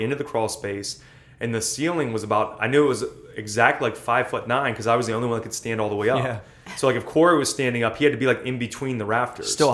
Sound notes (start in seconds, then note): 6.0 laughs